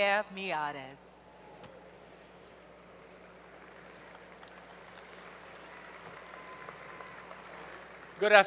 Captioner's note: applause